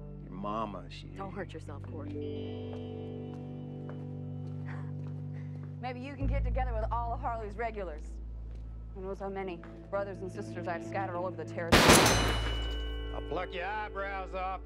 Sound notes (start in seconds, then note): 11.7 gun shots